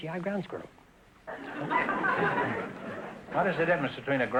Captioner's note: audience laughter